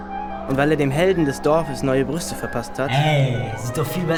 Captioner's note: voiceover